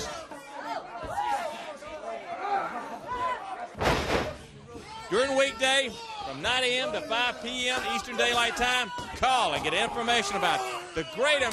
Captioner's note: crowd chatter